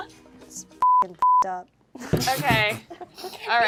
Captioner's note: beep